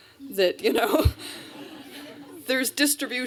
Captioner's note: laughter